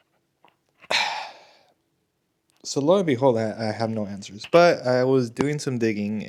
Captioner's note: sighs and gasps